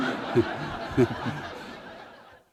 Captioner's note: laughter